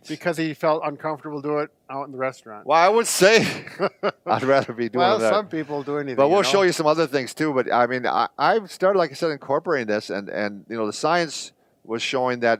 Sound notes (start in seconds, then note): 3.3 laughs